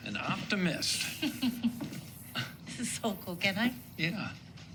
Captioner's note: chuckles